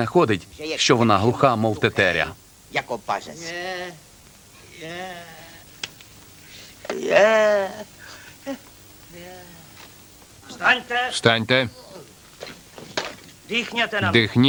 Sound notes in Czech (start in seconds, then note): 4.6 stenání; 6.4 vzdycha